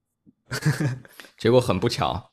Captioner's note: laughs